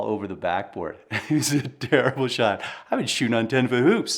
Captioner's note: laughing